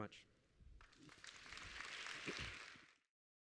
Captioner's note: applause